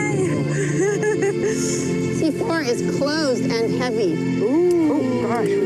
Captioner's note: laughs